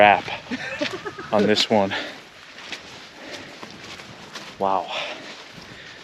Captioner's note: laughing